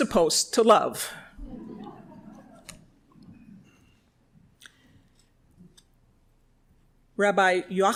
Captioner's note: chuckles